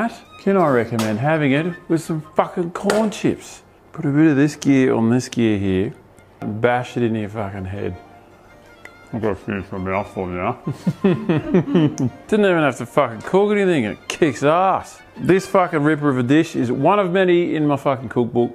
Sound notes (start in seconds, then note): 10.6 laughs